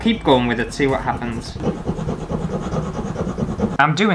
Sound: scratchy Sounds

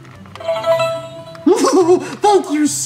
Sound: beeping; laughs

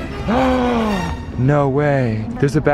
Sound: dramatic music; gasps

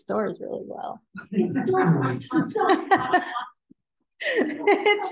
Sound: all laughing

